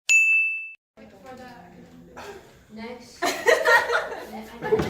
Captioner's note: students laughing